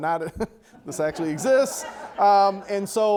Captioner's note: audience laughter